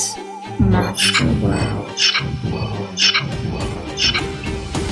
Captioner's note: monster Voice